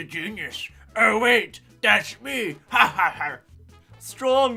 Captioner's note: pirate Laugh